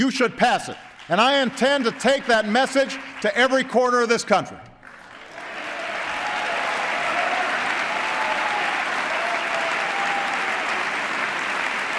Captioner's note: applause